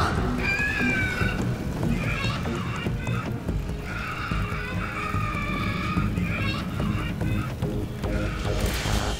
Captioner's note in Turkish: Bağırıyor